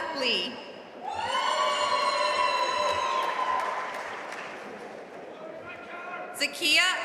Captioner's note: audience cheering and applauding